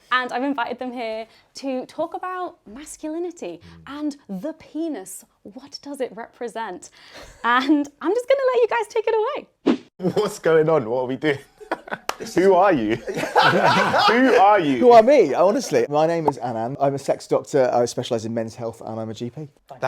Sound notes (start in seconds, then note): 12.9 chuckles; 13.4 guests laughing